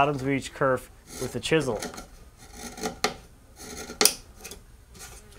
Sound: wood scraping

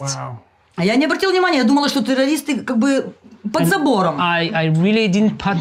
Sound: speaking in foreign language

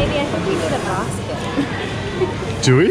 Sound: laughing

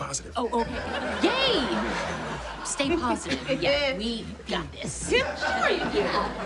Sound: Katrina chuckles

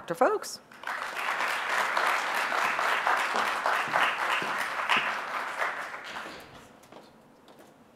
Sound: applause

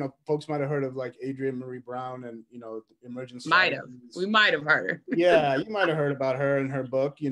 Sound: laughs

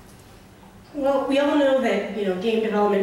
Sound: voiceover

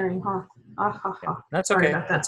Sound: laughter

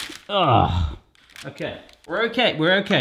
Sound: grunt

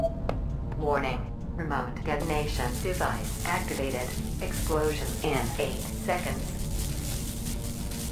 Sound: female a.i. voice

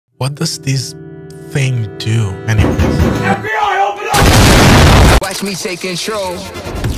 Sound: explosion

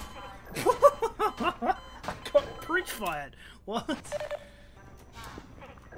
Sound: laughing

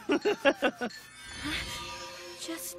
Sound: chuckling; gasping

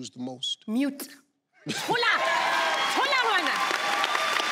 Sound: speaking in foreign language; audience applauding

